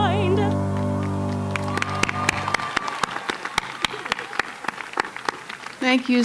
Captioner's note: cheers and Applause